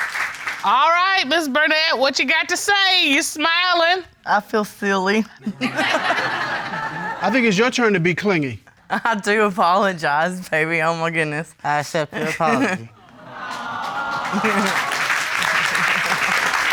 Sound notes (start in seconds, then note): 5.4 all laugh; 13.0 chuckles